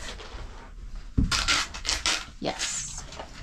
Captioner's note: scratching sounds